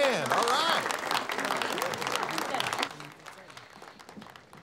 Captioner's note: students clapping